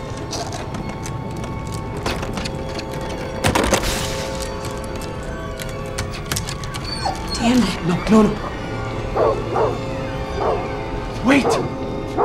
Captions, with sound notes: (dog whining) Julie: "dammit." "No! No no.. " (dog whining and barking) "Wait!"